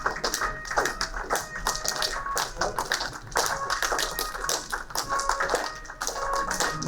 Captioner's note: clapping